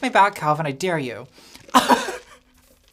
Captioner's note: laughs